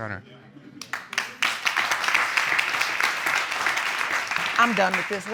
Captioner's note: audience clapping